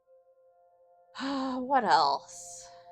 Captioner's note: sigh